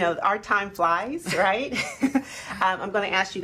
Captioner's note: laughing